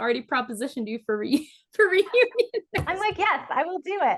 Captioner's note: laughs; hand slams